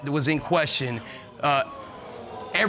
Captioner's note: audience gasping